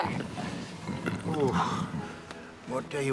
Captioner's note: stomach rumbles